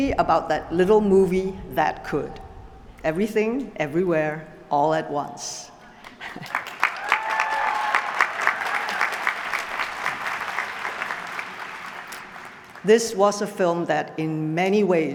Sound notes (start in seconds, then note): 6.0 applause